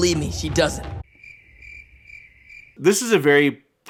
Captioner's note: suggestive crickets